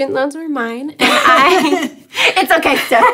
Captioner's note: laughing